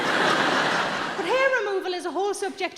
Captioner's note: audience laughing